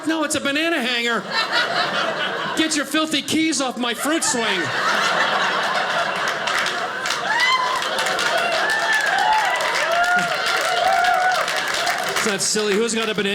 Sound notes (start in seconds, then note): 3.9 audience cheers; 8.4 audience applauding